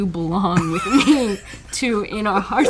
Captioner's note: both laughing